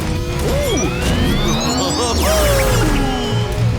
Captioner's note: chuckling